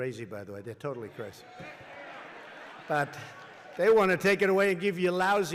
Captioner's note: laughter and applause